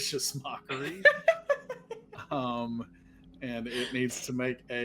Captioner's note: laughing